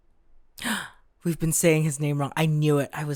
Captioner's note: gasp